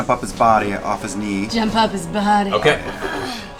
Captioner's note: sultry